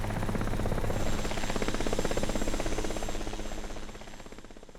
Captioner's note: helicopter Sounds